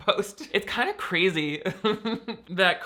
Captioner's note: laughs